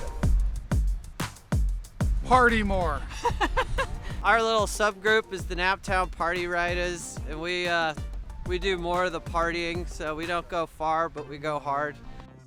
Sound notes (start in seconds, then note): 0.2 upbeat music; 3.0 wife laughing